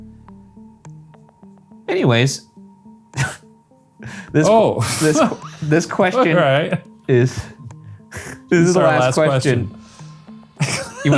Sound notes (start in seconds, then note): 0.3 brooding music; 3.1 laughing